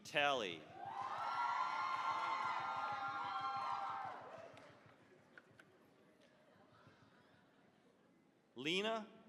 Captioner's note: cheering, applause